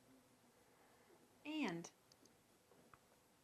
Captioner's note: electronic Voice